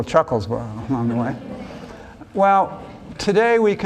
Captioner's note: laughs